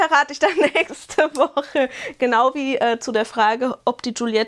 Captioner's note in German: gelächter